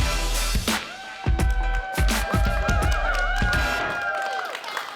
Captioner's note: applause